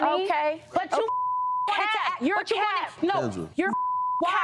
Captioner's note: beep